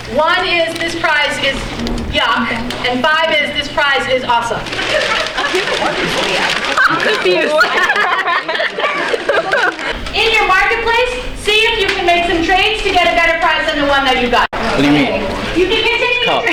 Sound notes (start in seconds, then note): 6.2 chattering; 6.7 laughter